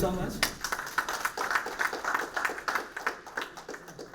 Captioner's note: applause